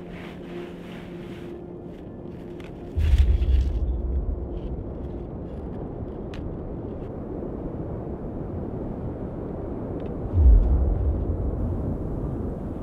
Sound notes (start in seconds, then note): 4.4 low wind blowing